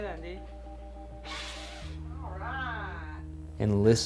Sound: boy huffing

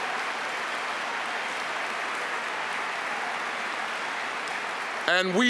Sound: applause

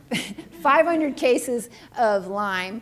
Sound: chuckling

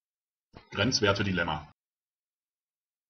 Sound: fast Pronunciation

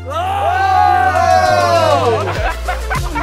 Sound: cheering; techno music

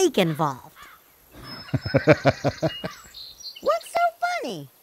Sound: laughs out loud

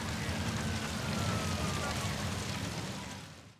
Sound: siren blaring

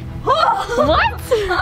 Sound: exclaims and laughs

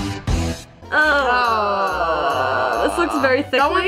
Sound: groaning

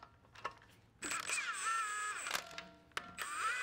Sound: drill whirring

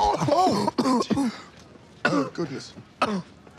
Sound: coughing; blows landing

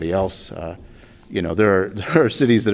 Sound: laughter

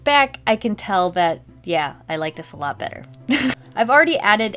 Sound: laughs

